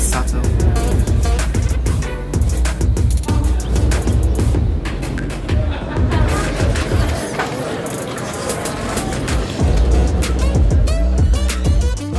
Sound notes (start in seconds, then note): 0.0 upbeat music; 6.2 talking; 8.5 upbeat music